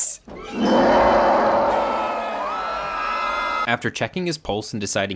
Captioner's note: family screaming; Harry roaring